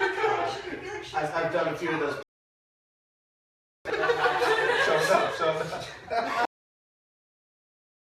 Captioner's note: laughing